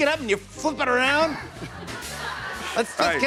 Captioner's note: laughter